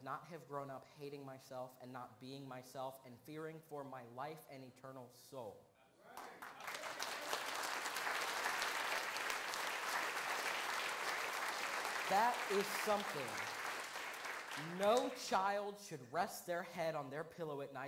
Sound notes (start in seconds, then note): 6.1 applause